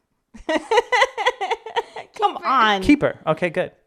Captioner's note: chuckling; laughing